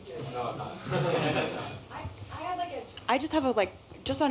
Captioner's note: laughter